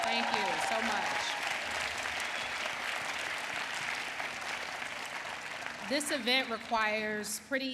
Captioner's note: applause